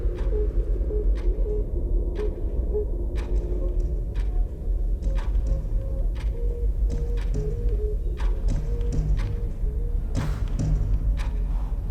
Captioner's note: clock ticking